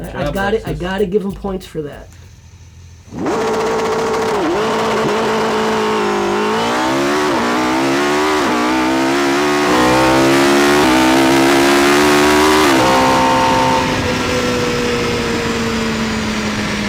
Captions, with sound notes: - Good job Lexus. - I gotta give them points for that. (engine revs)